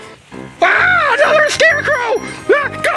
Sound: screaming

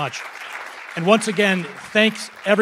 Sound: audience applauding

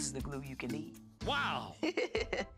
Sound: Ms. Tab laughs

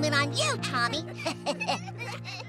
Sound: laughing

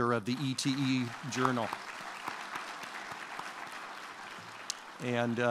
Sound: applause

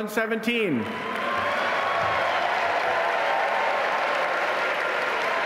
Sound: audience applauding

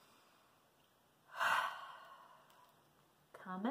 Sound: sighs

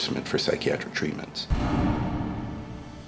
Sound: impact noise

